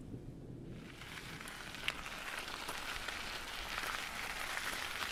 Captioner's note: wheels slosh